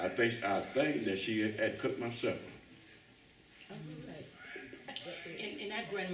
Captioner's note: laughs